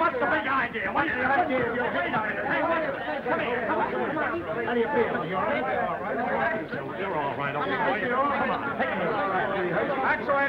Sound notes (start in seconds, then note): 3.5 men arguing